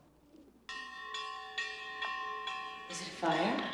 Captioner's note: bell clanging